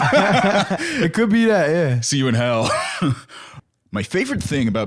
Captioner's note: laughs